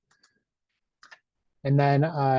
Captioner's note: mouse clicks